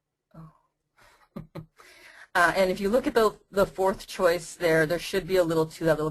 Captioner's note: chuckles